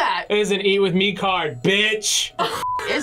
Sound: laughs

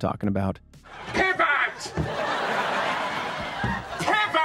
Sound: crowd laughing

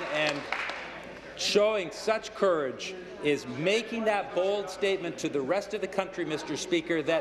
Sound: applause

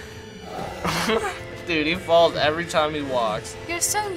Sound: chuckles

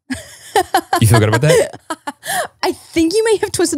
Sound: laughing

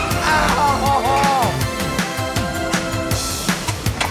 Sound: yelling

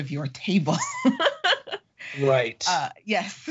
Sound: laughing

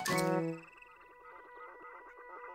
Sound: humming of mechanism

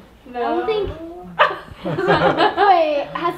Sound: everyone laughing

